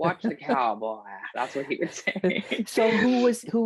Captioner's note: laughing